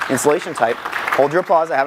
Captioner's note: audience applauding